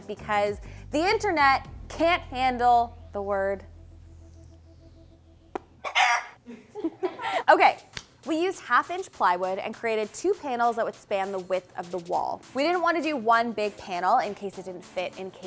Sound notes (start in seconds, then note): 5.8 rooster crows; 6.4 people laugh